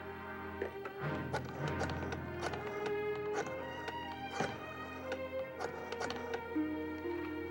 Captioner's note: dialing phone, over music